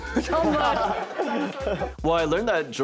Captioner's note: all laugh